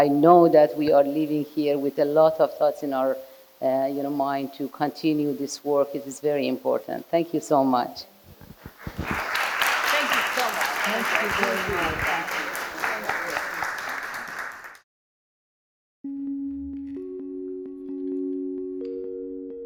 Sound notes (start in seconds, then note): 8.6 audience applauding; 16.6 bright music